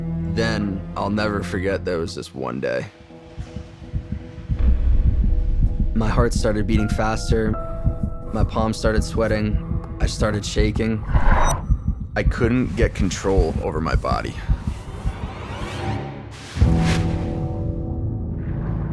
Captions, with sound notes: Then, I'll never forget there was this one day... (tense piano music) (heartbeat thumping) My heart started beating faster. My palms started sweating. I started shaking. I couldn't get control over my body. (tense music)